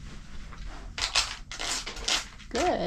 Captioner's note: scratching sounds